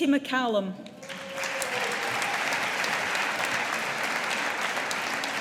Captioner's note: audience applauding